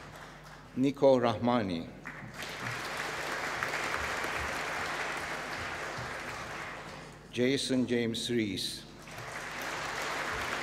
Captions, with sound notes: Nikoo Rahmani. (APPLAUSE) Jason James Riise. (APPLAUSE)